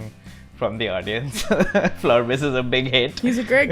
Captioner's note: laughs